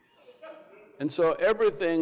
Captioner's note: person in crowd laughs